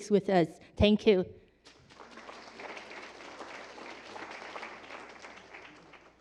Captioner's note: applause